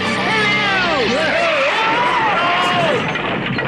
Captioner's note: tires squeal; Toad screams